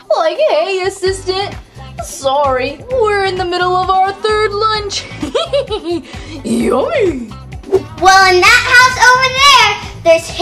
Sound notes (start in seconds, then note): 5.0 laughs